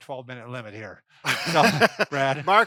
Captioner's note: laughing